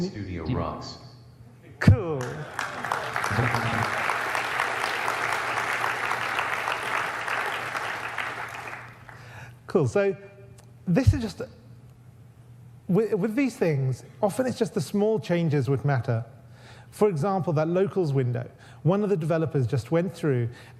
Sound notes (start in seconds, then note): 2.0 audience applauds